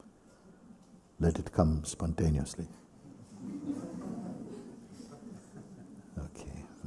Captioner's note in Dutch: gelach